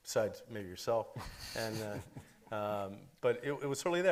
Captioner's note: chuckles